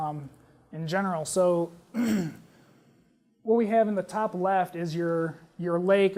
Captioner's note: cough